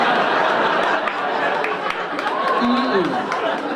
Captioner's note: audience laughing